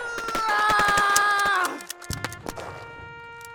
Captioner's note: yells; empty gun clicks